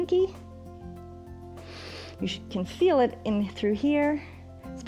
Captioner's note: inhales